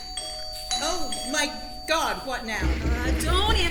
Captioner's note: doorbell. Banging